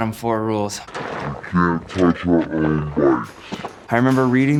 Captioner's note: ghostly voice